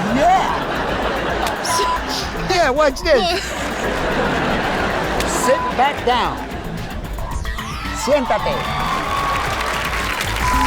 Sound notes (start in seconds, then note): 4.0 sniffling; 7.1 repeats in foreign language; 9.2 upbeat jazz music